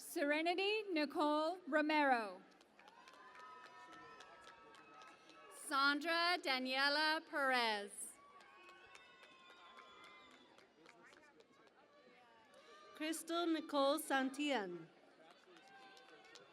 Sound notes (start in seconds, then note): 2.5 cheering and Applause; 8.0 cheering and Applause